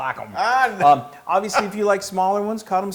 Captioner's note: laugh